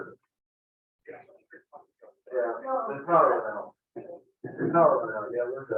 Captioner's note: group muffled chattering